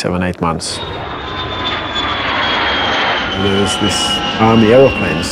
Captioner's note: piercing jet engines